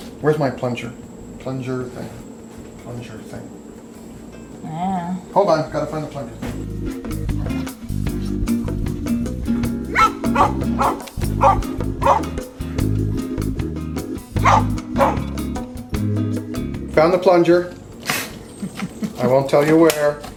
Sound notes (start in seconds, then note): 6.8 lively music; 9.7 dogs barking